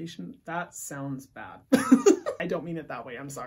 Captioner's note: laughs